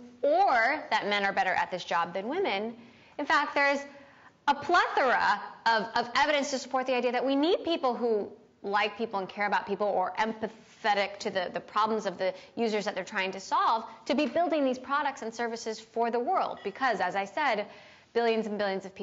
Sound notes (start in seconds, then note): none